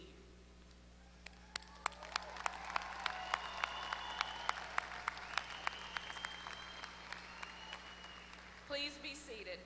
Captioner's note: applause